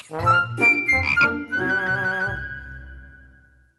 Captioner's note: croaks